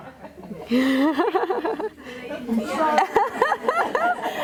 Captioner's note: laughing